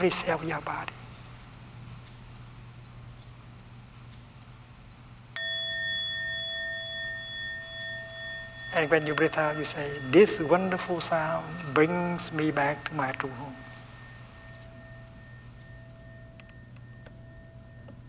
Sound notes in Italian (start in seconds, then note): 5.3 suono di campana